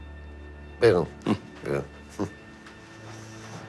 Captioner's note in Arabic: ميلان يضحك